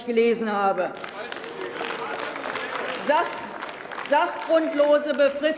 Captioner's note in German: Beifall bei der LINKEN - Zurufe von der SPD: Falsch gelesen!